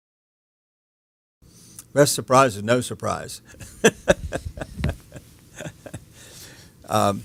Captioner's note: chuckles